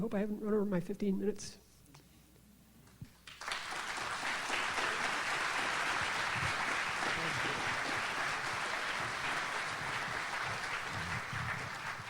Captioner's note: audience applauds